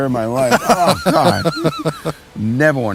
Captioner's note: laughing